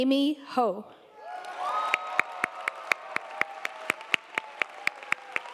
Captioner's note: audience applauding